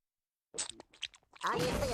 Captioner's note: slurping